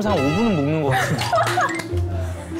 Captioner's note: hahaha